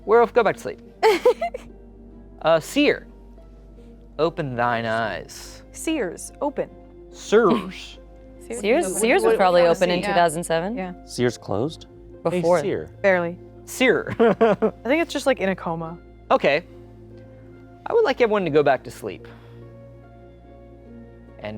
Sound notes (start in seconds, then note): 1.0 laughing; 14.2 laughs; 19.3 light music